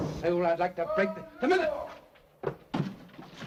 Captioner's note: loud bang from downstairs; man downstairs yelling